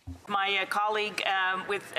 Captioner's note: speaking French